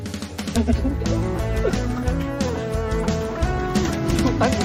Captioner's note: upbeat music continues; laughs